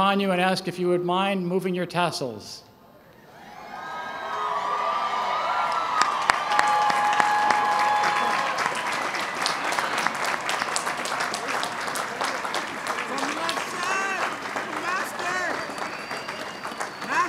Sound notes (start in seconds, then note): 3.6 applause and cheers